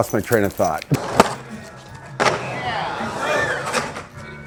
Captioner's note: screeching